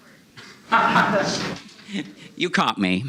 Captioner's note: laughter